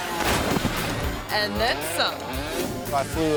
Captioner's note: motorcycle thuds